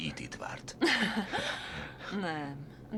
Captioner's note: laughs